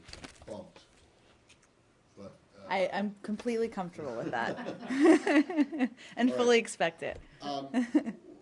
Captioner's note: laughter